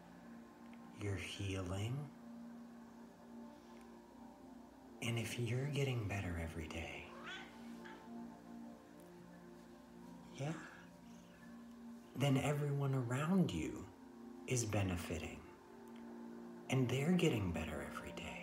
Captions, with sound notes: You're ~healing~ And if you're getting better every day [Pan the cat meows] Yeah then everyone around you is benefitting and ~they're~ getting better every day